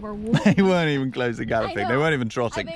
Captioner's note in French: rire